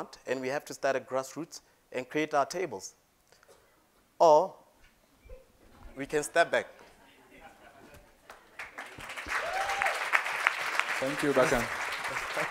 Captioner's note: applause